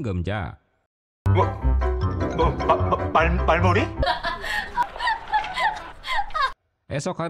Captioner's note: laughs